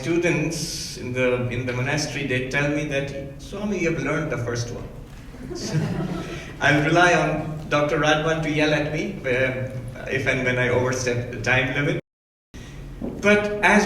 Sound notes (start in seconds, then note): 5.3 audience laughs